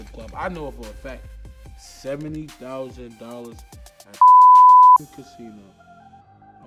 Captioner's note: beep